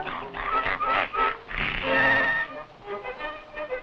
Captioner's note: gentle tense music; Pete growling